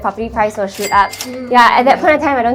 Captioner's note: cash register dings